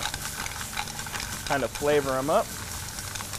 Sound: sizzling

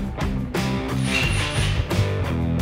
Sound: drill whirs

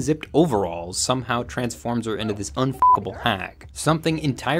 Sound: beep

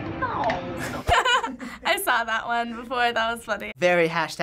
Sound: laughs

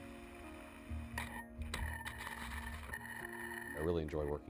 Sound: glider scraping along ground

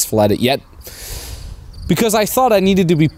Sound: inhales deeply

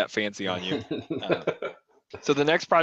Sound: laughter

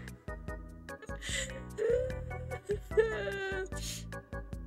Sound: crying i think

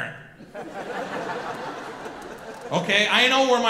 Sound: audience laughing

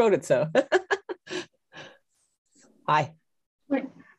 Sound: laughs

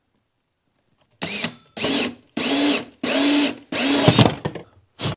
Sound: drill whirling

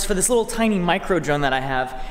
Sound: none

